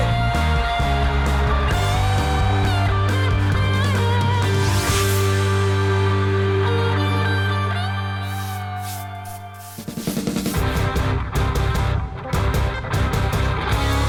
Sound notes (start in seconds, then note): 0.3 rock music; 8.2 brush scraping; 10.9 upbeat rock music